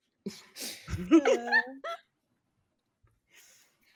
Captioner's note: cast laughing